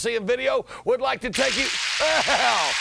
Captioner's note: people clapping